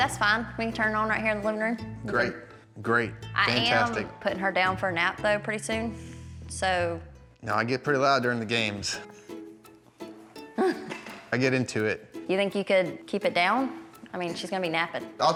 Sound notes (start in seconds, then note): 8.6 laughs